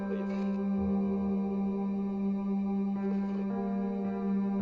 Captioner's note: static crackling